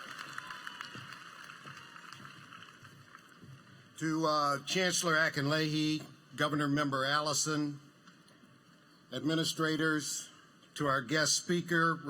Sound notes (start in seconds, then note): 0.0 applause